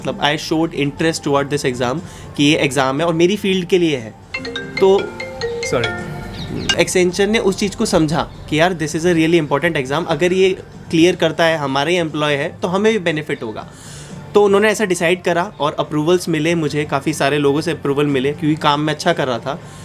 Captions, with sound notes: I showed interest towards this exam i.e, this is the exam and related to my field as well [phone rings] sorry accenture understood that thing i.e, this is really important exam if he clears this exam and is our employee so we will also be benefited so they decided this and I got approval from many people because I was doing great work